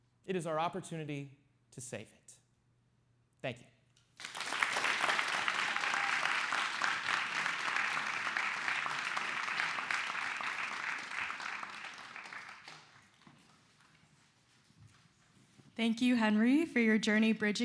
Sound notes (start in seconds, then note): 4.2 clapping